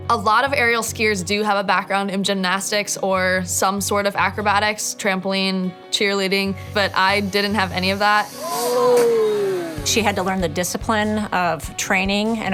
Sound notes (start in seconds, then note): 8.6 water plashing; 8.7 man groaning